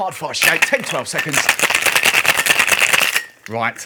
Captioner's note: cocktail shaker rattles